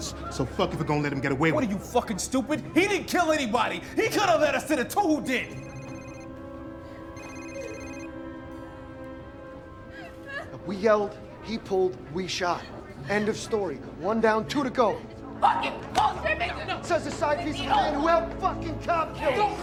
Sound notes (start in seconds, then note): 7.1 phone ringing; 9.8 waitress crying